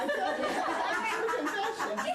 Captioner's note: laughter